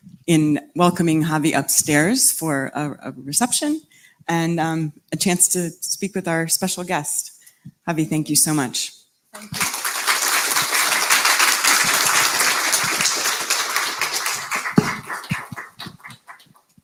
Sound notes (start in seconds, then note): 9.3 applause